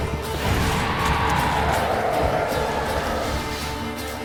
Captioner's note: raspy howl